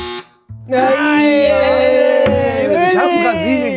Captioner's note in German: Enttäuschte Rufe